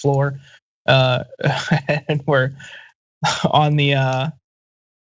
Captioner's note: laugh